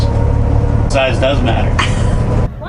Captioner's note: laughs